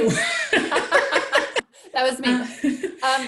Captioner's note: laugh